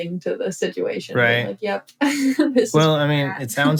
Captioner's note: laughter